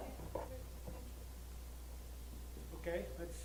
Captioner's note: voiceover